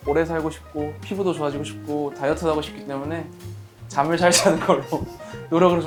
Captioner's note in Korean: 웃음